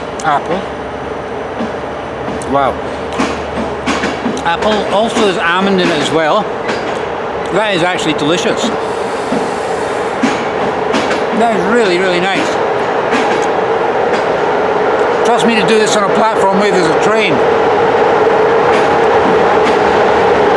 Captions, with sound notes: Wow. Apple, also there's almond in it as well. That is actually delicious. Really, really nice. [ Very noisy train in background. ] Trust me to do this on a platform where there's a train.